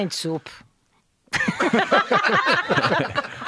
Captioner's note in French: rires